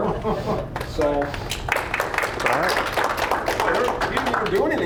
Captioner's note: applause